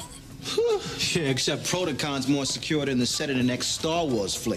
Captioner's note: sighing